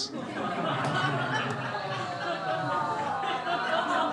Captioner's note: crowd laughing